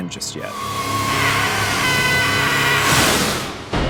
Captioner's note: screaming